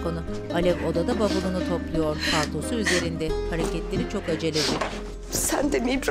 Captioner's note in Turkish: Alev ağlama sesi